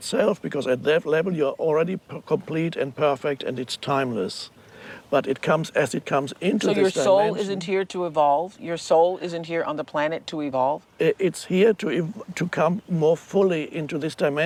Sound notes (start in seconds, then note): none